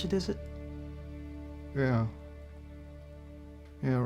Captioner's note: scottish accent